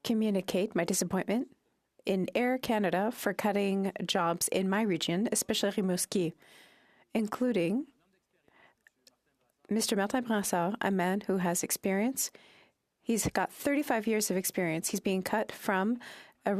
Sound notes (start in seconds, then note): 0.7 speaking French